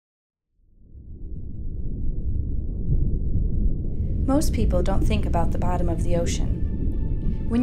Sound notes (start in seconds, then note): 1.1 water burbling